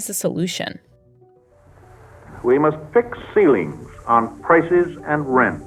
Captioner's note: soundbite of archived recording